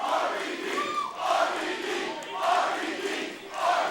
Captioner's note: crowd chanting "RVD"